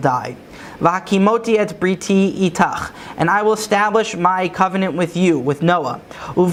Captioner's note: Hebrew